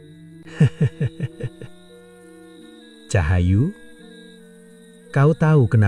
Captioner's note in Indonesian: tertawa